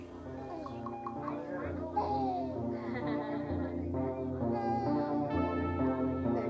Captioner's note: baby babbling; woman giggling